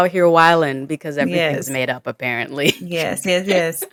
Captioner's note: chuckles